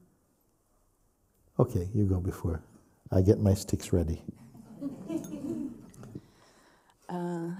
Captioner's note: laughter